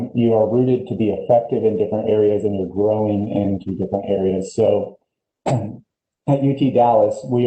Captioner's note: clearing voice